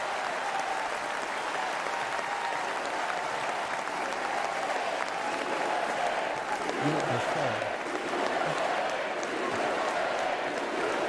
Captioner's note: applause